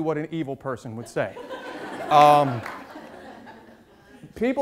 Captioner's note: audience laughs